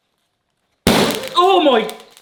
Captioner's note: vessel bangs